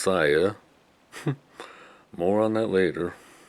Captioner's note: chuckles